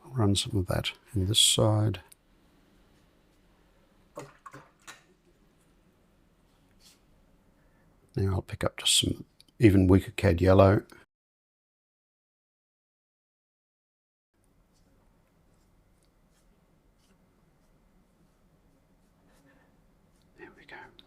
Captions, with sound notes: Run some of that in this side. [silence] Then I'll pick up just some even wicker cad yellow. [silence] There we go.